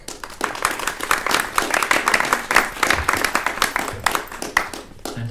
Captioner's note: attendees clapping